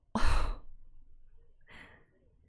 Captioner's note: breathes